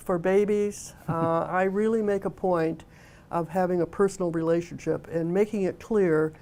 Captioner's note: laughter